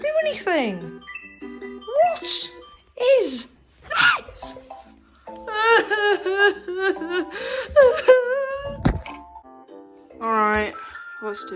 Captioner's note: cries